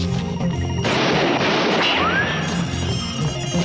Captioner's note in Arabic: اصوات صرير الاطارات; إطلاق نار